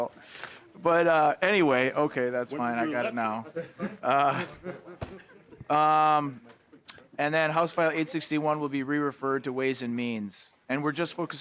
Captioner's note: laughter